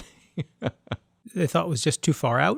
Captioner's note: laughs